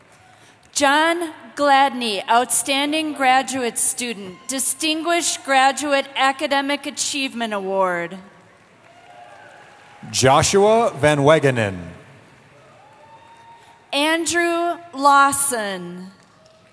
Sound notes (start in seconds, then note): 8.8 cheering; 12.4 cheering; 16.3 cheering